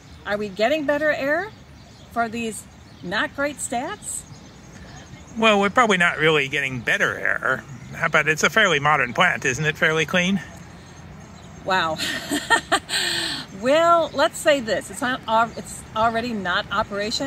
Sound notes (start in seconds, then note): 11.9 laughs